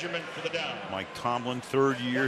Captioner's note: pa announcement